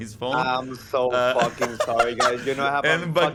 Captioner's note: laughter